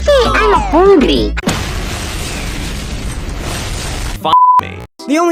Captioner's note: Flfo4 Explodes